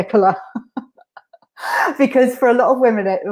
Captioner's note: laughing